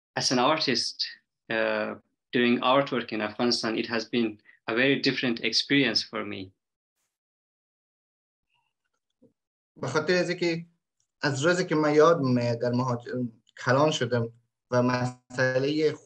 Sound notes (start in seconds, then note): 9.8 speaks in Dari